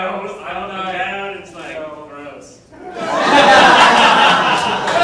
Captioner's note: audience laughs, applauds